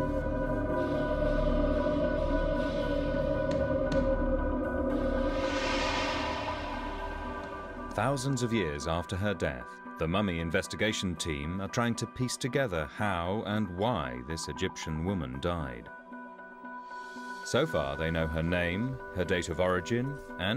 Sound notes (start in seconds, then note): 6.0 eerie whooshing